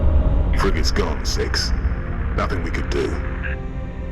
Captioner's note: radio